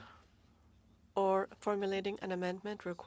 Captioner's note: speaking French